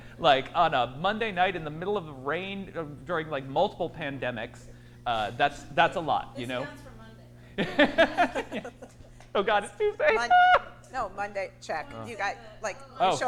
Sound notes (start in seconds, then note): 7.7 laughs